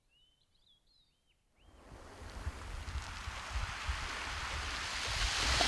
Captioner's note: wave breaking on shingle